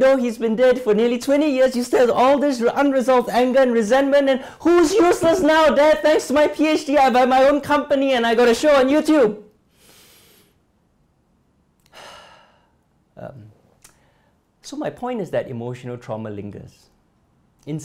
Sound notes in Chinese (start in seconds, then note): 11.8 吸气